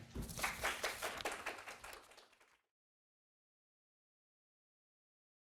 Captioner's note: audience clapping hands